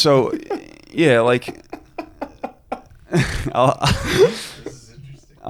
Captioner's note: giggling